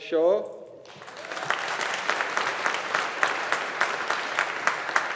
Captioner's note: audience applauding